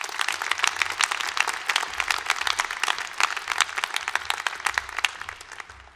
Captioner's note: applause